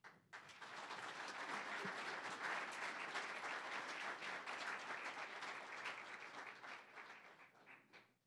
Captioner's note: applause